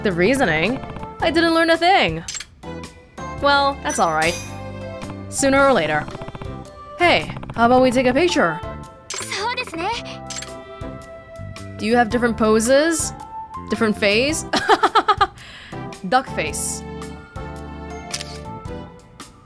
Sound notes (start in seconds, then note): 14.5 chuckles